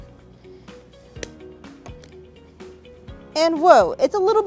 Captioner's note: lighter ignites